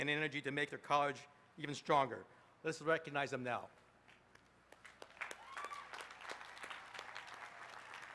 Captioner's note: applause